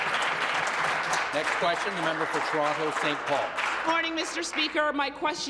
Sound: applause

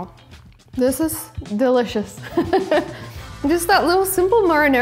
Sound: laughing

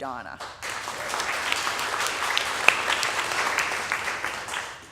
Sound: audience applauding

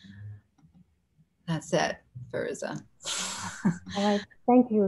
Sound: chuckles

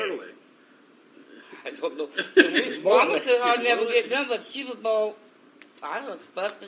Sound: laughs

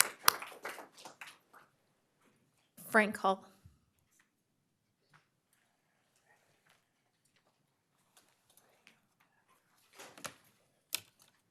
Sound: applause

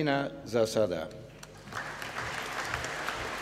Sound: applause

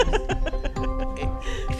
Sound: laughs

